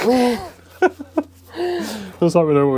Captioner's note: laughing